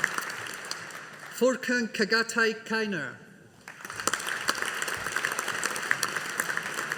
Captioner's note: audience applauding